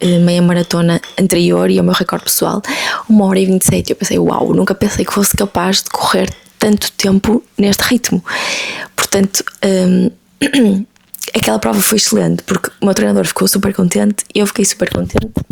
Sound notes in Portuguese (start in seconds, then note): 9.9 limpando a garganta